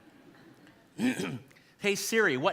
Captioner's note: audience laughing